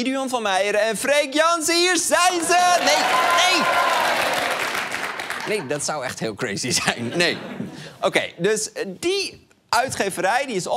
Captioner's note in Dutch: gejuich